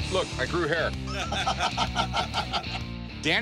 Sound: laughter

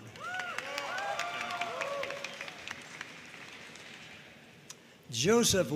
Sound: audience cheering and applauding

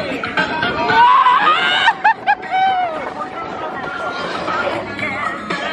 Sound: screaming and laughing

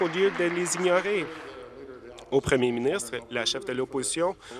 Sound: applause

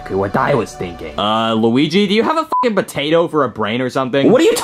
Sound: beep

